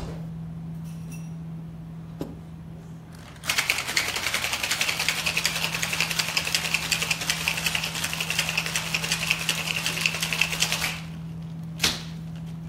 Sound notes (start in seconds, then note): 3.4 drink shakes